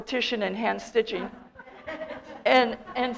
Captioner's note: audience laughter